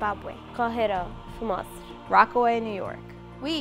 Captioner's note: speaking foreign language